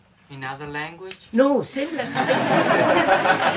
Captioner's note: laughter